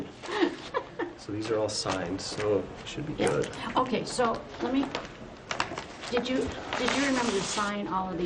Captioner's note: laughter